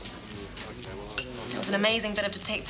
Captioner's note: glasses clink